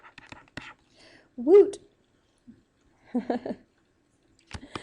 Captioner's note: giggles